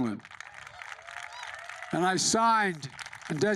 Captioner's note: applause